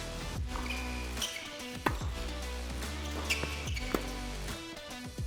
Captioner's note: shoes squeak